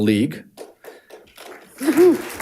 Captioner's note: audience applauding